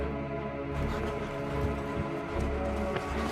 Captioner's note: running steps